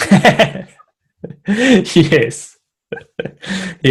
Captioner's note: laughs